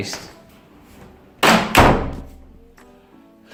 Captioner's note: door slam